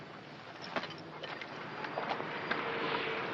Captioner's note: vehicle approaches